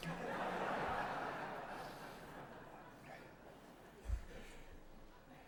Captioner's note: laughter